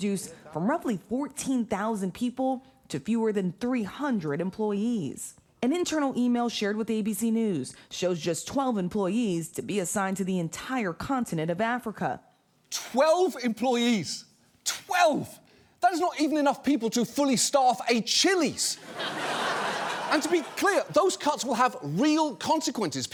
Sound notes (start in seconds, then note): 18.7 audience laughing